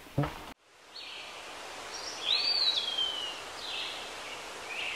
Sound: birds chirping

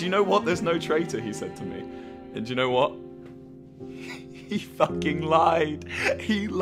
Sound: laughs

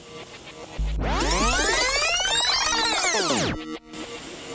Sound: sound of tape rewinding

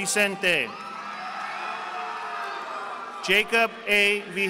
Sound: audience applauding

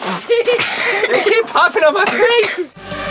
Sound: kids laughing

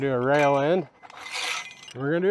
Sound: metal scrapes

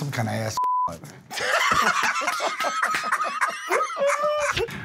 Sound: laughter

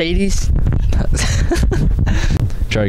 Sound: laughing

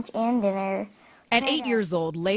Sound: voiceover

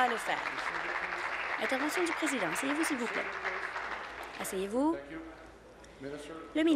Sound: applause

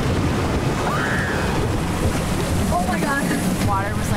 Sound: shrieking

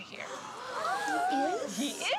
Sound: children gasping

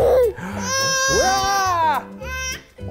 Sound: cries; giggles

